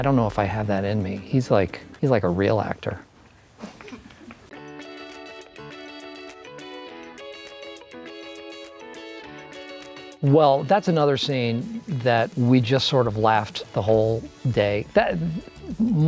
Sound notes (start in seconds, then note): 3.6 laughs; 5.2 upbeat music